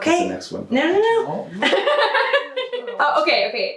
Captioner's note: laughs